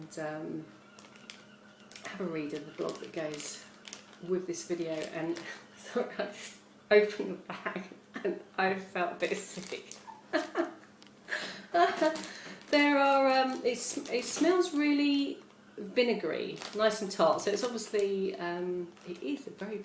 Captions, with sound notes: - and have a read of the blog that goes with this video. Sorry... I just opened the bag and I felt a bit sick *laughs* It smells really vinegary. Nice and tart. So it's obviously a very powerful scoby.